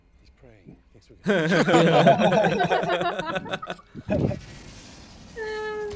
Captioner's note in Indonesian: Ketawa